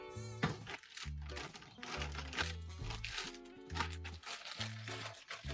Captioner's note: jar closing; plastic bag crinkling